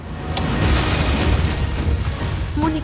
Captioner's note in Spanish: Explosión